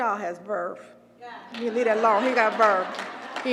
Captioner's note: applause